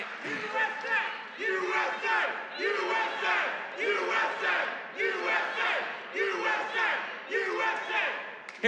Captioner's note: audience chants "USA"